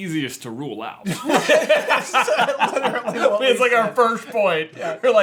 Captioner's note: burst out laughing